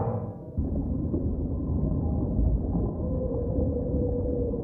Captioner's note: underwater silent noises